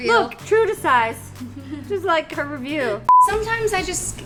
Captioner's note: beep